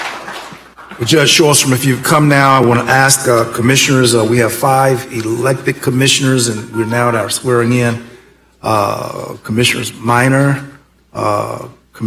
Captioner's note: applause